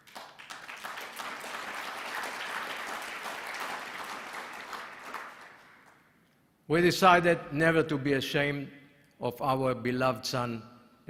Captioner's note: applause